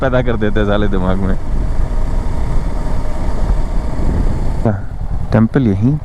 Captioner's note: engine thrum